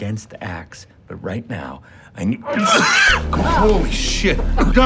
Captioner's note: Donnie pukes